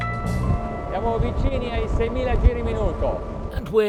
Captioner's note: speaks Italian